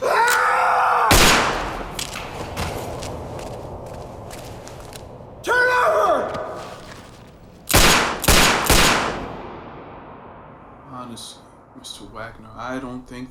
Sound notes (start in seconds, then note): 1.1 gunshot; 7.7 gunshots